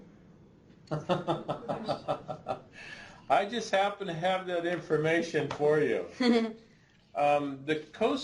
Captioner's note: laughs